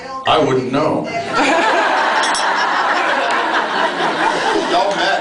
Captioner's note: laughs